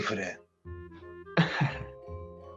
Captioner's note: laughs